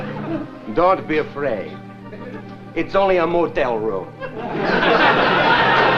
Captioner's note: with Italian accent